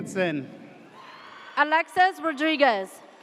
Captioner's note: audience cheers